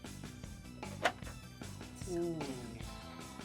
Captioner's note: tooth clicks; whispers